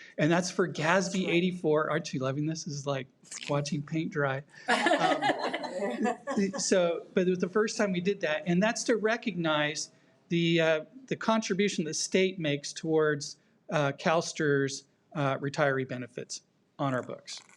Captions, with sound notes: And that's for Gatsby 84, aren't you loving this? This is like watching paint dry. (audience laughs) So, but it was the first time we did that and that's to recognize the contribution the state makes towards CAlSTRS retiree benefits on our books.